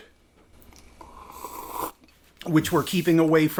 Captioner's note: drinking sounds